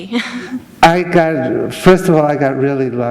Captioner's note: chuckle